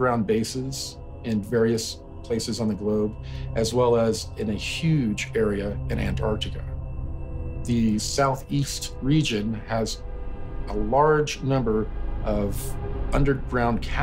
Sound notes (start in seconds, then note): none